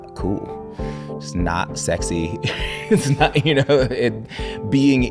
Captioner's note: laughing